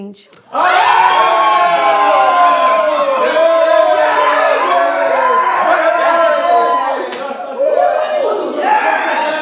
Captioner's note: screams of joy and celebrations